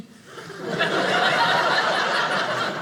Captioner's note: audience laughing